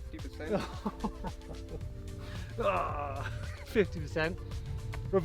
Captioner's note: laughs